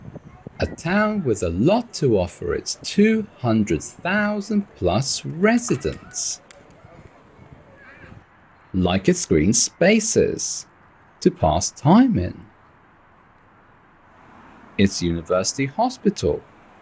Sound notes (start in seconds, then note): none